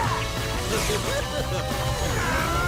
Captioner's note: robot laughing; grunting